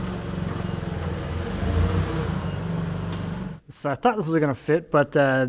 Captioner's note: wood thudding; forklift beeping